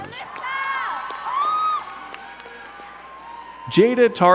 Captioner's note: crowd cheering and clapping